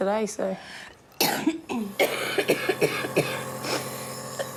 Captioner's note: coughs